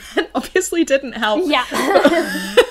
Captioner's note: laughs